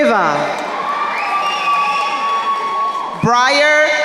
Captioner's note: crowd cheering